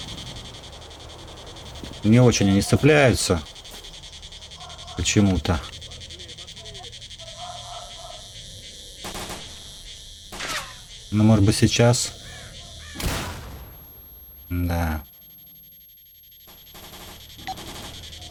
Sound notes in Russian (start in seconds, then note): 5.6 Слышны свистящие рядом пули